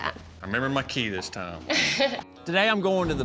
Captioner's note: chuckles